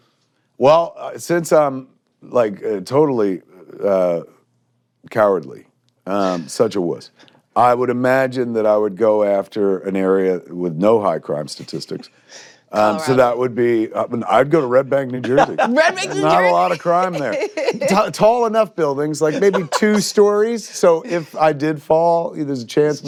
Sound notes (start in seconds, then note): 14.1 laughs